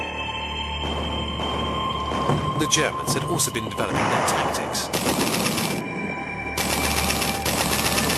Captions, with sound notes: [heavy artillery booming] The Germans had also been developing their tactics. [guns blasting]